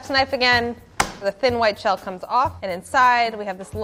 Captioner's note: smacks